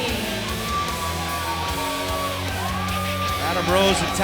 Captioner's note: crowd cheers